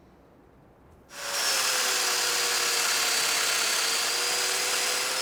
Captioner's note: machinery whirs